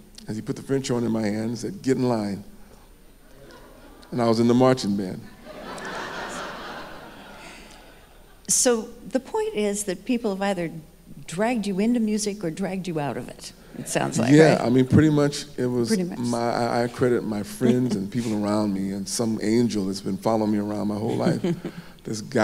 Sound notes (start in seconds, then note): 5.3 audience laughing